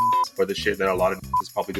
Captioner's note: beep